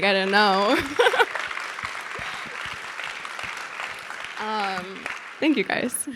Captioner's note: audience applauding; Sydney laughing